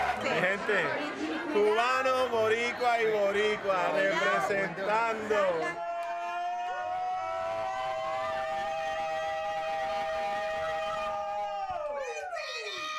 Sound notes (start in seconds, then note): 0.2 speaking Spanish; 5.6 all cheering